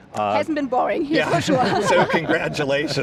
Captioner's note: laughs